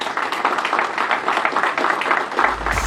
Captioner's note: applause